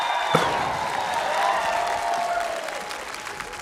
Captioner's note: cheering, applause; bang!